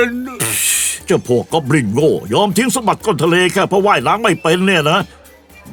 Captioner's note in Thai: พ่นลมพรืด